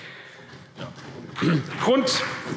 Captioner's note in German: Beifall CDU und BÜNDNIS 90/DIE GRÜNEN